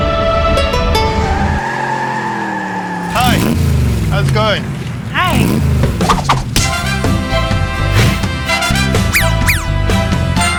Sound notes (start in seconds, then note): 1.4 tires squealing; 4.3 engine revving; 6.4 upbeat pop music